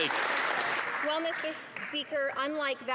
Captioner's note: some Applause